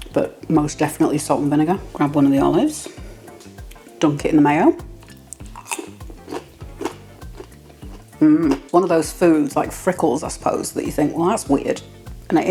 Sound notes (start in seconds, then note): 5.3 crunch